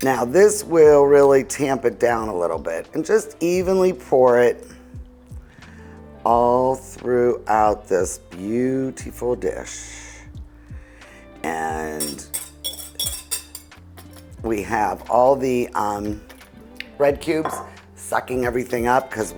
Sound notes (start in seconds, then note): 12.0 whisk scraping